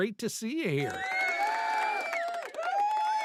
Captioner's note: audience cheering